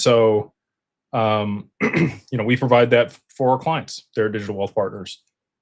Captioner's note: clears throat